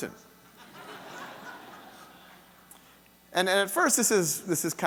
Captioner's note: audience laughing